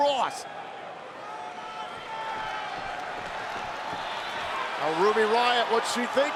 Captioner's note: applause